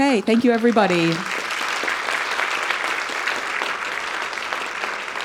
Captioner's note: audience applauding